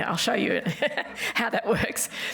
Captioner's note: laughs